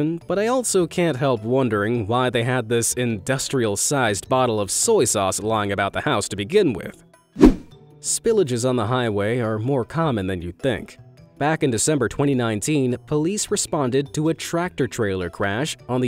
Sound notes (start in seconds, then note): 7.4 image whooshing